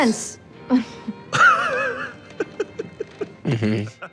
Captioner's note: Murray laughing